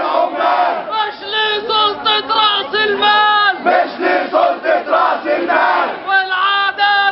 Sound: chants

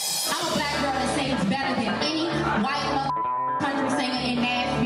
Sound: beep

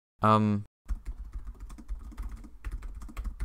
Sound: typing

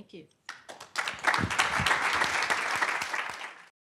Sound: applause

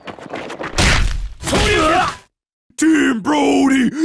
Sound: screams

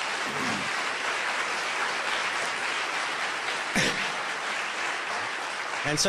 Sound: clapping

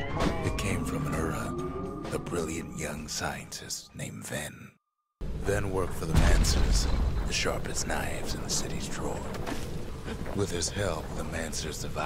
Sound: in-game audio

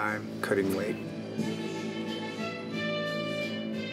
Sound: radio playing

